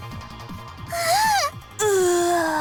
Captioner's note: gag